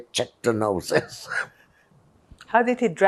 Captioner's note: laughing